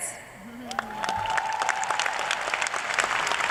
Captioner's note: cheers and applause